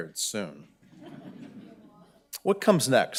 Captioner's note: audience laughing